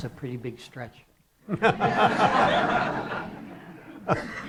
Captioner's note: laughter